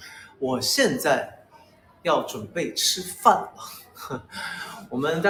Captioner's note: laughs